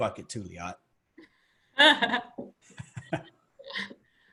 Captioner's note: laughing